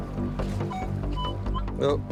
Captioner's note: beeping